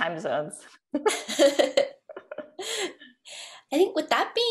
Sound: laughter

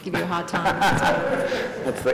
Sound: laughter

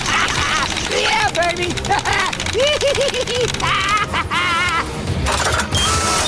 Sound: laughing

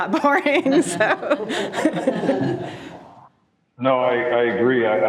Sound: group laughing

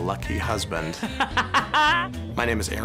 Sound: laughs

